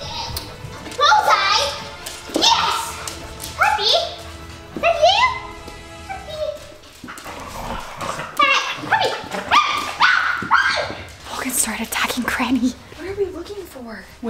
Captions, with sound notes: - Bullseye, yes! Puppy, is that you? Puppy! (dog growling) Puppy, ah, ah, puppy! - Logan started attacking Granny. What are we looking for?